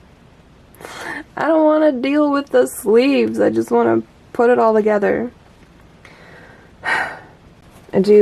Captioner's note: sigh